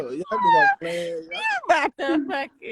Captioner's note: laughter